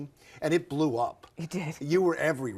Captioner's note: laughs